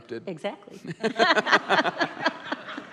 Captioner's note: laughs